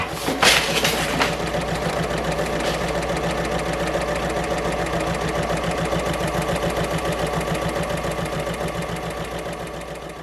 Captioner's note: sewing Machine Sounds